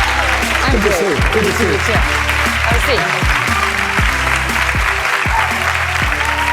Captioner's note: applause